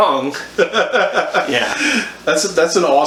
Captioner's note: laughs